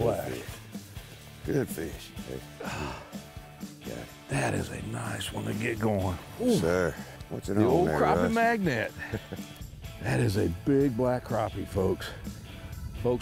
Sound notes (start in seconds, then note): 2.5 sighing; 8.7 laughing